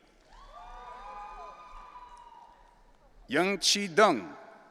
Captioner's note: audience cheering